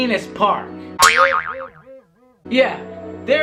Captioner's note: boings